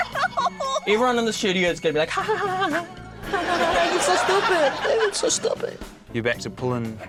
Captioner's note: titters